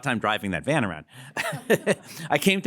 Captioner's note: laughter